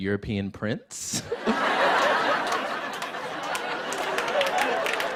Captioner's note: laughter; applause